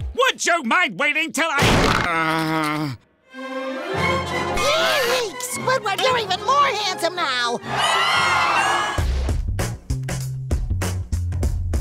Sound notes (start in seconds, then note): 2.0 moaning; 7.6 cheering